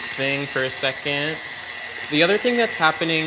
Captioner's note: mixer whirring